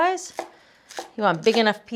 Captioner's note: knife thudding